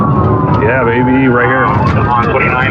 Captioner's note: radio